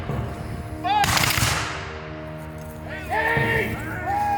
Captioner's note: guns fire